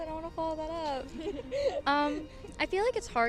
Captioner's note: laughing